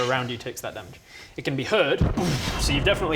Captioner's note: booom!